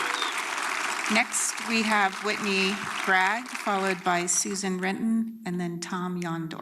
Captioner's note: applause